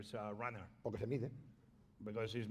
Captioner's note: speaking spanish